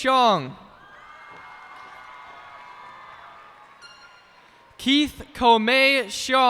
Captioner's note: cheers and applause